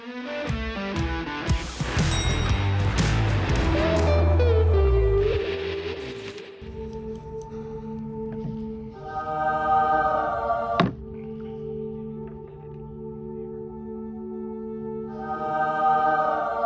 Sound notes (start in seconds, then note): 1.4 upbeat music; 6.8 angelic music; 11.0 box shuts; 13.9 angelic music